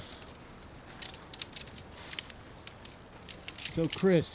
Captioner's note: poles clicking